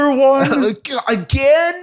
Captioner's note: laughter